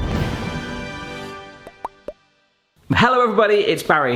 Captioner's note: upbeat music; logo popping